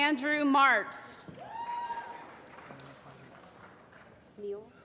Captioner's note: applause